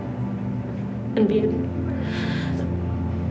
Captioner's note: sobs